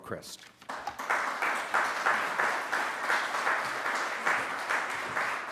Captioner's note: audience applauding